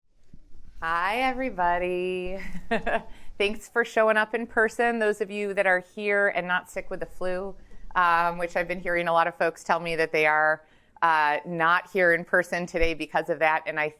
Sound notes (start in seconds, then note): 2.4 laughs